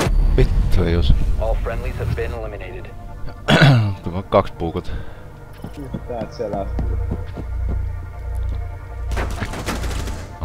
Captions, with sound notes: F***, didn't hit. [clearing throat] I did knife two. One got from behind.